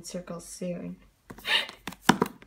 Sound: gasp

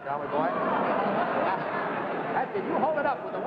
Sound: audience laughing

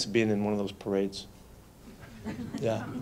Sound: light laughter

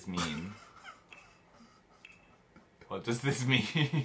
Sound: stressed laughter

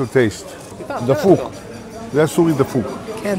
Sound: Speaking Hebrew

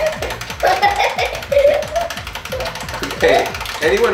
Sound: giggling

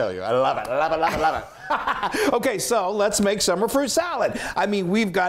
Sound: laugh

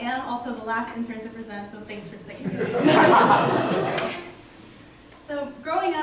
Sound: laughter

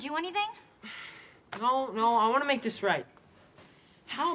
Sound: sighs

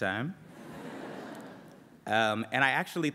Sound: laughter

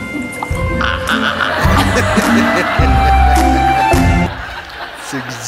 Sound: audience laughing

